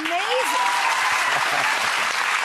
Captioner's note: audience applauding